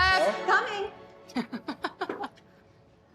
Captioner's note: laughs